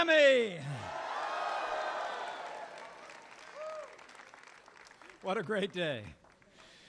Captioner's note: applause